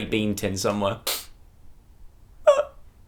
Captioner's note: sniffle